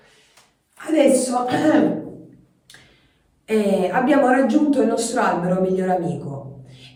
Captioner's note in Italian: schiarire la voce